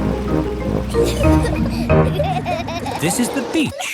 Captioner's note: children giggling